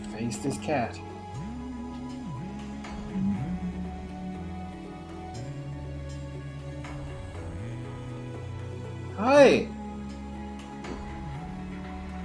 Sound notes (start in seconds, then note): 1.0 hums along; 11.1 hums along throughout